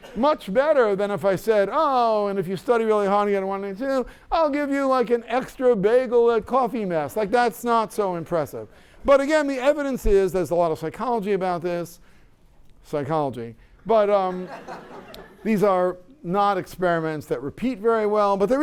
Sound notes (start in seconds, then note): 14.3 laughter